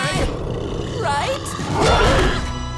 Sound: growling

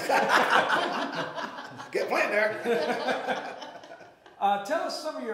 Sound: all laughing

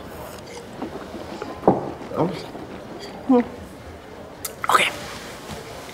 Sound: swishes

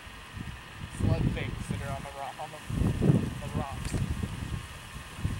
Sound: wind

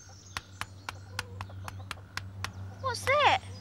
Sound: engine rumbling

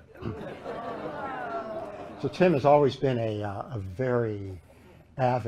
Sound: laughter

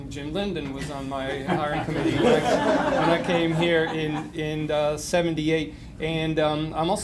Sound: laughter

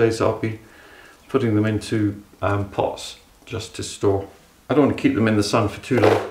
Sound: none

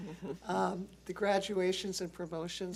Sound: laughs

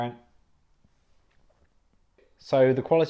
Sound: awkward silence

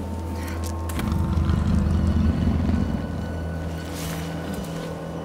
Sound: low growl

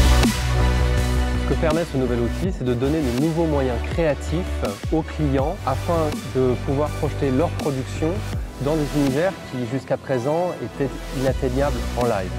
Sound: speaking french

